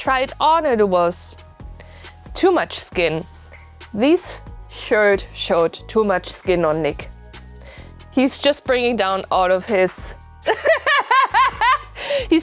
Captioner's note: two idiots laughing at the same timing